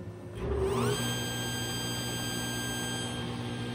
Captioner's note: dust collection and table saw noise